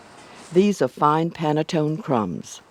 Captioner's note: voiceover